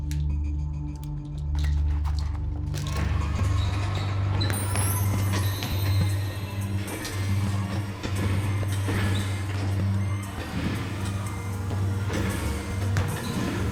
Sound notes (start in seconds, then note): 0.3 dramatic, quietly tense electronic music; 3.7 shoes squeaking on floor; 8.9 dramatic, quietly tense electronic music